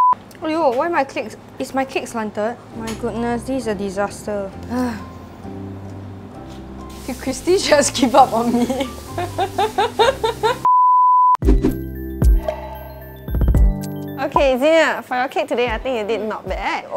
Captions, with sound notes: Aiyo! Why my cake- Is my cake slanted? My goodness, this is a disaster. (Sigh) Did Christie just give up on me? (Laughs) Okay Xenia, for your cake today I think you did not bad.